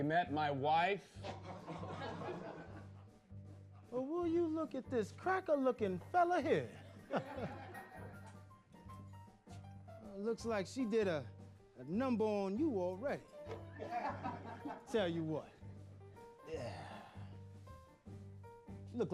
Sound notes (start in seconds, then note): 1.2 laughter; 13.7 men laughing; 16.3 sighs